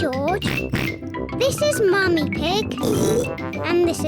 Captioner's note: oinks; oinks